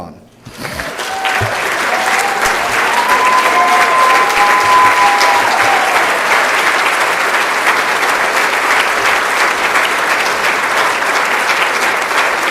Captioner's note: applause